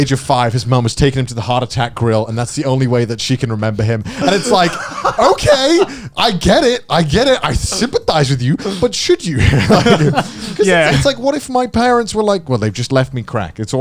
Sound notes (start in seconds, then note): 4.1 chuckling; 9.3 both chuckling